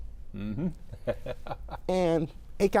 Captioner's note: laughs